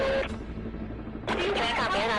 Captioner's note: police radio chatter